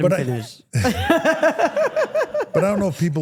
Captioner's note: everyone laughs